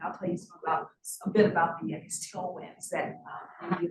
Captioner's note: sound distorted